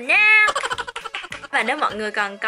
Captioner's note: clap